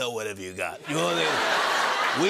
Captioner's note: laughter